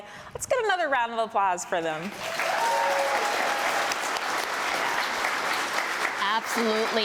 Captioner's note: applause